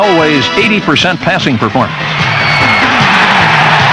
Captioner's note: crowd cheering